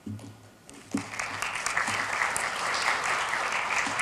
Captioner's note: applause